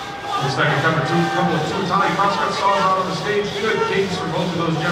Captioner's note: muffled announcer calls event